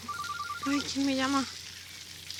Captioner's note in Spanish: Suena el celular